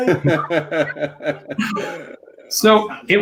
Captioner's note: laughs; babbling